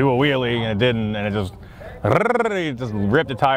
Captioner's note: trills